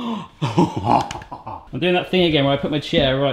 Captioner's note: laughing